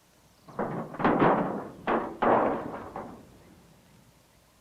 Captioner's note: metal clattering